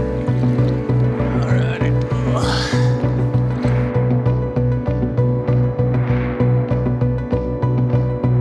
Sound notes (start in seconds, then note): 2.0 grunt; 4.8 anxious electronic music